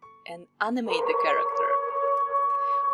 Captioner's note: wolf howling